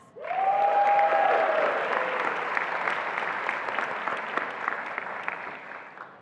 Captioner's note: attendees applauding and cheering